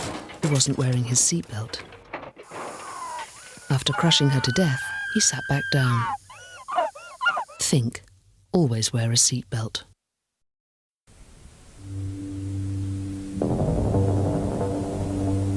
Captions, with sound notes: Who wasn't wearing his seatbelt *SCREAMING* After crushing her to death, he sat back down THINK! Always wear a seatbelt